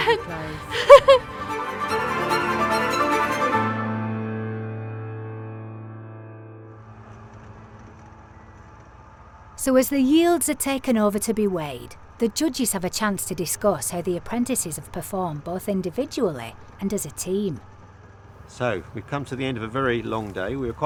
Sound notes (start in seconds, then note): 0.0 laughs; 3.8 string music ends; 8.0 motor running